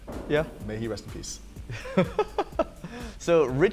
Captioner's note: headstone thuds; laughs